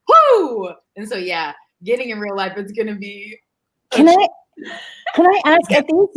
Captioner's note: murmurs